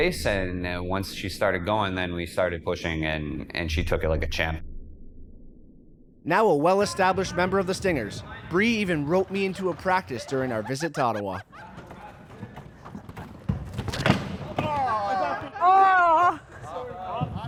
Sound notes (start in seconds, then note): 13.3 chairs loudly crashing